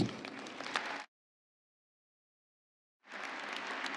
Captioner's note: applause